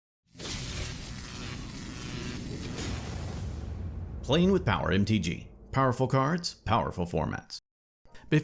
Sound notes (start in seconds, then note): 0.3 electricity zapping